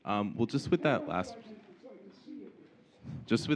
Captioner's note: faintly speaking